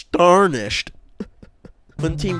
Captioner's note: sarcastically laughs